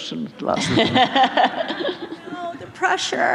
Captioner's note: laughter